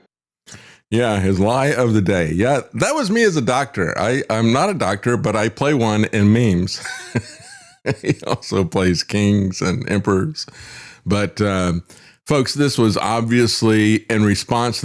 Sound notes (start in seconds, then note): 6.8 laughs